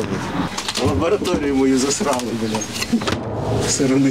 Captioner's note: laughs